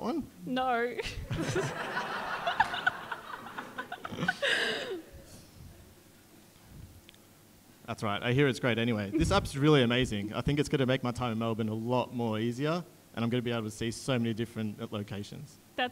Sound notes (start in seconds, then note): 1.3 audience laughing